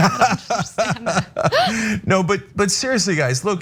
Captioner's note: laugh